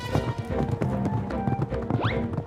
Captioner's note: none